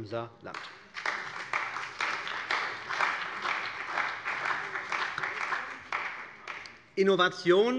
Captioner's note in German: Beifall bei der CDU und dem BÜNDNIS 90/DIE GRÜNEN